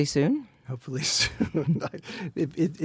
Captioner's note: laughs